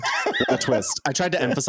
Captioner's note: laughing